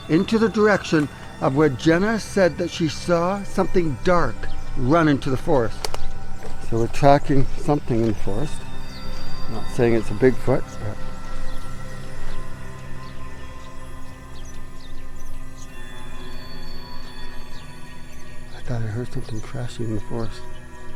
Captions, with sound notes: into the direction of where Jena said that she saw something dark run into the forest. So we're tracking something in the forest. Not saying it's a Bigfoot, but... (suspenseful music) (birds chirping) I thought I heard something crashing before us.